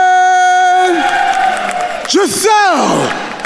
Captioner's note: attendees cheering and applauding